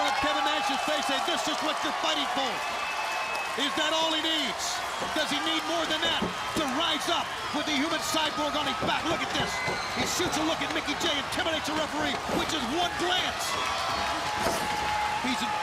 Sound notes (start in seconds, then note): 4.7 crowd cheering; 13.4 crowd chatter